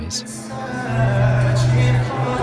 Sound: loud crowd noise; singing

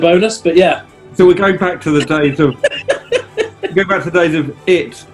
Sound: laughing

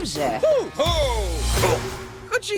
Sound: Po exclaims

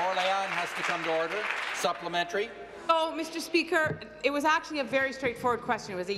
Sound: applause

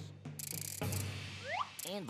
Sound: whirring

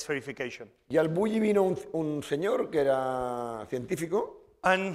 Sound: speaking spanish

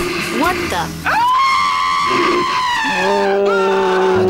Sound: screams

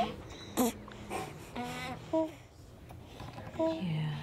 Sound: laughs; baby sounds continue

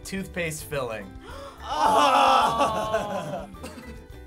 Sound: gasps

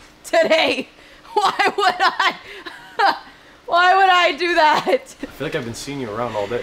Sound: laughs

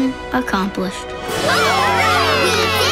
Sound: cheering

